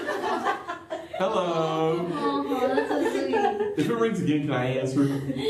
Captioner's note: laughter; laughter